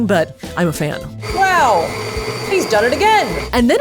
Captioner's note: mixer whirling